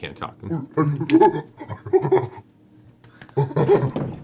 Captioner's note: gorilla noises